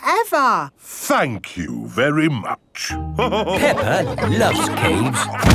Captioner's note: all laughing